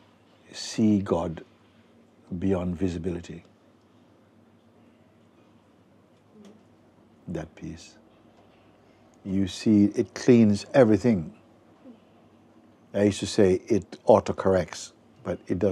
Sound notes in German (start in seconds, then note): none